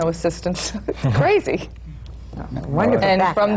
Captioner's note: laughs